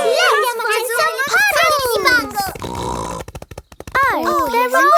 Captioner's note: snorts